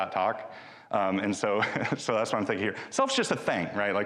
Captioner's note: chuckles